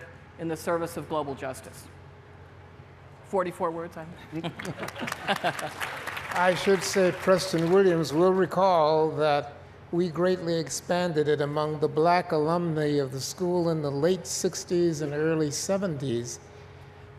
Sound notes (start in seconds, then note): 4.5 applause